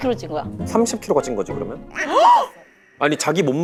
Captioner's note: gasp